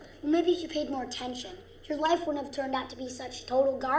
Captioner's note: none